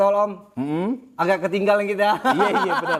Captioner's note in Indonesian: tertawa